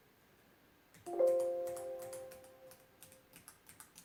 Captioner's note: keys clicking